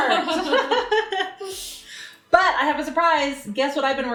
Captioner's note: laughs